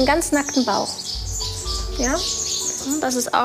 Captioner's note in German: Gezwitscher